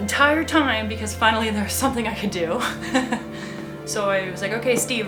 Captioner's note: laughs